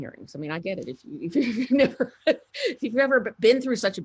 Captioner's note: laughs